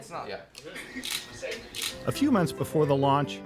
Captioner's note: laughs; camera clicking